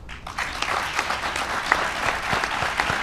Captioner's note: applause